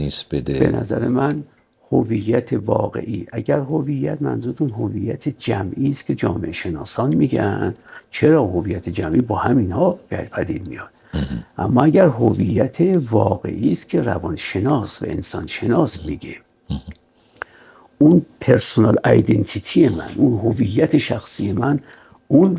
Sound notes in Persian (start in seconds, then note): 11.1 گلویش را صاف می‌کند